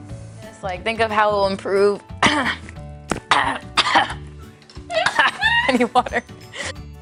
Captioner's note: voice breaking, coughing, laughter